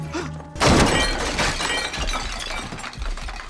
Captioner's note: clatter